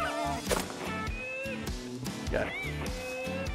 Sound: gun fires

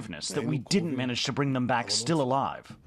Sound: speaking in a global language

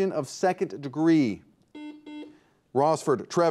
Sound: buzzer beeps

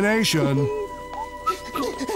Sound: whistling; Mayoral panting

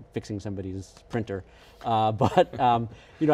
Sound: laughing

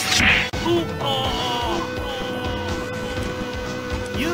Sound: echo

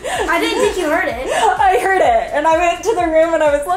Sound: laughing

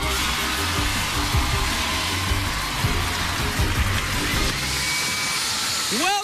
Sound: crowd cheering

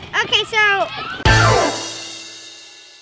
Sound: sound effect

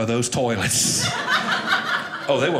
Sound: audience laughing

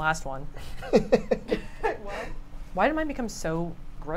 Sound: laughs

